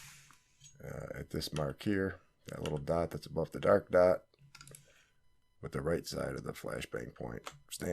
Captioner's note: smoke